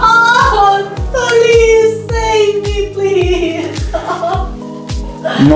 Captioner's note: scream; scream and cry